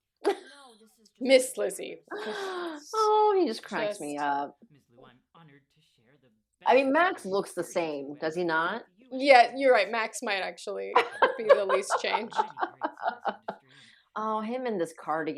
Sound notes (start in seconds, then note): 10.9 laughter